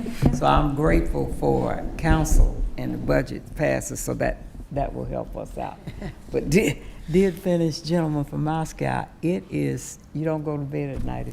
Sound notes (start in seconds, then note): 5.8 chuckles